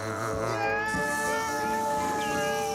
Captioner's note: screams